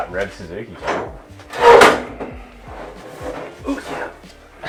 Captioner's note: metal scrapes